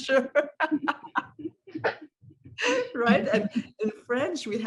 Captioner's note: laughter